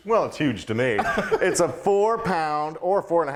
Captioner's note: chuckling